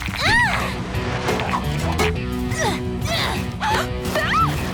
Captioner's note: grunting and screaming